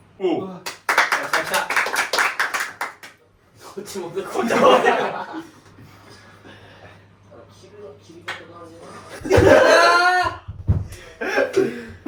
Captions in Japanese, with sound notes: お来た、来た。[拍手] こっちもこっち切る切り方いっぱいある。グラグこ切ってもさ、 [笑い] [笑い]